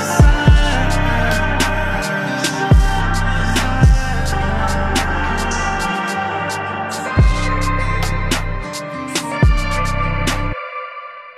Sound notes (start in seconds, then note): 5.2 ah ah ah